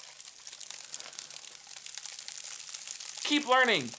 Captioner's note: crackling